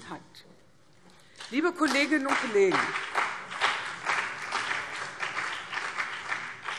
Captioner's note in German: Beifall CDU und BÜNDNIS 90/DIE GRÜNEN